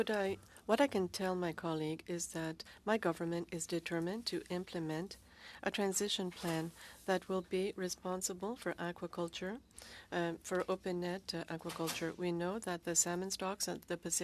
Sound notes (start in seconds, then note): 2.9 speaking French